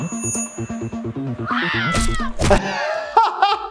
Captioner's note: high pitched screeching; people screaming; body parts thudding; laughing